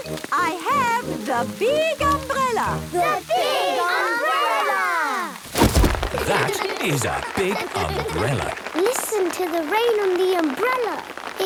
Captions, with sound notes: I have the big umbrella. - The big umbrella! - (big umbrella opening) - That is a big umbrella! - (raindrops pitter-pattering) - Listen to the rain on the umbrella!